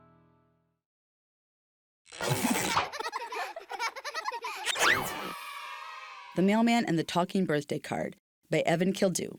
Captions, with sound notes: (children laughing) (children cheering) The Mailman and the Talking Birthday Card by Evan Kildau.